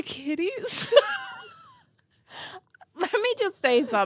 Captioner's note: laughs